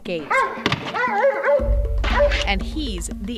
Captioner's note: dark barking